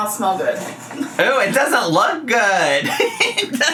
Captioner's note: laughs